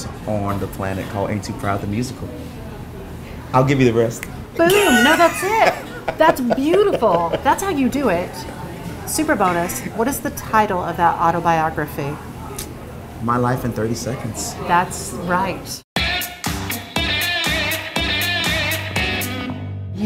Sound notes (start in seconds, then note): 4.6 laughing